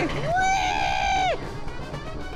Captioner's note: R2D2 screaming for his life